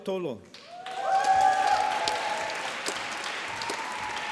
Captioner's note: applause